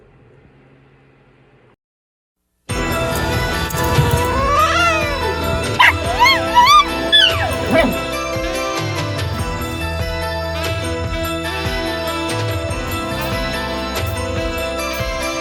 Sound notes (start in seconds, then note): 3.8 hisses and then yowls; 5.6 barks then howls